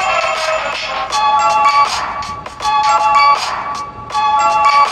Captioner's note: clap